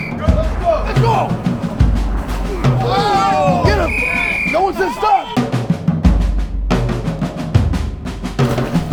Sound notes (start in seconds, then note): 4.0 whistle blows